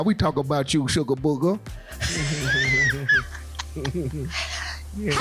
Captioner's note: laughing